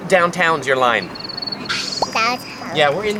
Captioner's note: birds chirping